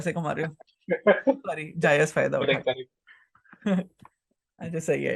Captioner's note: laughs